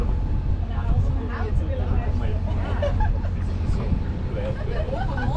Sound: people chattering

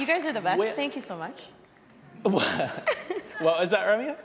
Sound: audience laughing

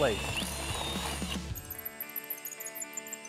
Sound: drilling

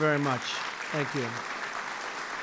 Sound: applause

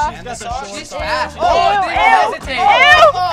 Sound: group chattering

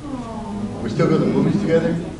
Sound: audience awws

